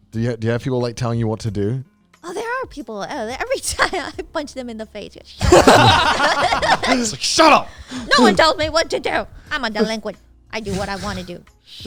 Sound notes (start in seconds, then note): 5.4 everyone laughing